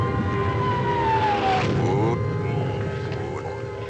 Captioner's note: bombs Exploding